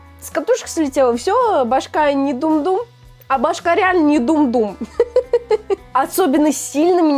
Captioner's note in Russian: смех